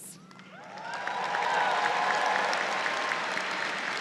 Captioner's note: audience cheers